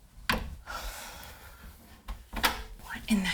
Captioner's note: door shuts